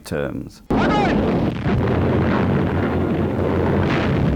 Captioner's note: man shouts